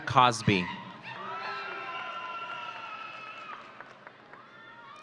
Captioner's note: audience cheering